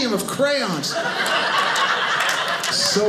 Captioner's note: audience laughing